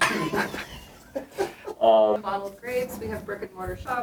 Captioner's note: all chuckling